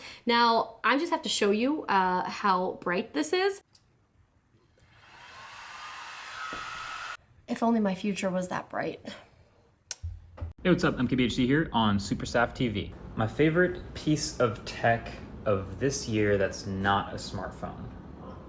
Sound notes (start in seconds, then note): 4.9 fan whirring